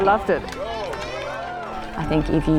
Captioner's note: crowd cheers